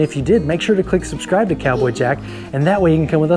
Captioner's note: shouts